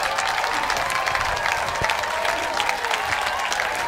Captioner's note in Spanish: se oyen aplausos